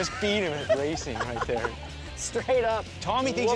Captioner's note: laughs